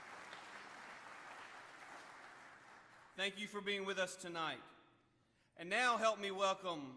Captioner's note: applause